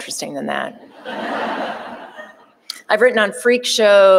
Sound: audience laughing

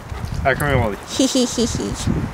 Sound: evil laugh

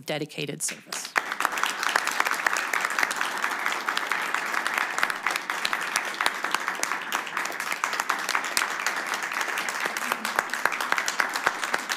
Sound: applause

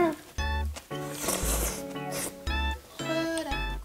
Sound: slurp

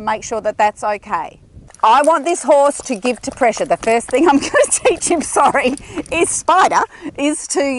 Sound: laughing

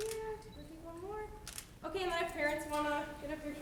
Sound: camera clicks

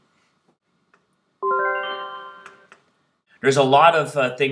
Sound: chime sounds

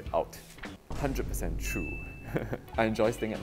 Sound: laughs

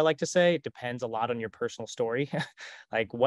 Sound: chuckles

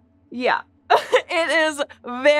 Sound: squeaks squeaking

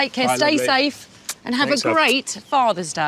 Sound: kissing

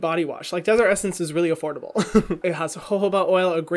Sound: laughs

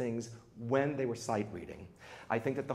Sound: none

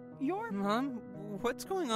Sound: In Andy’s voice

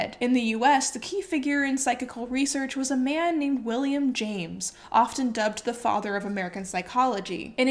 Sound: none

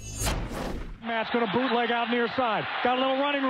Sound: metal swooshing; voiceover

